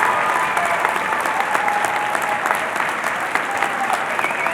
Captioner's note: cheering and Applause